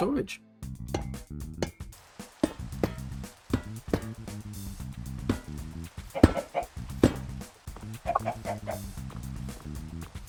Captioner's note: block placing noises